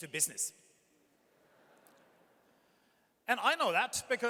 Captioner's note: audience chuckles